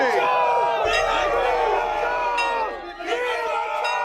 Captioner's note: gang cheering; school bell ringing